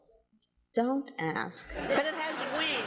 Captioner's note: audience laughing